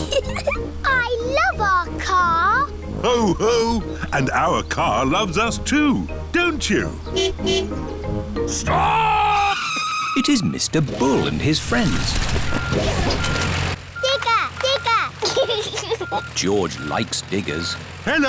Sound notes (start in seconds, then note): 0.0 giggling; 7.0 car honking; 8.4 tires screeching; 11.0 beeping; 15.2 giggles